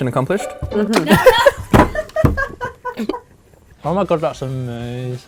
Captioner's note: laughter